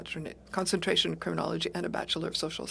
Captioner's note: speaking French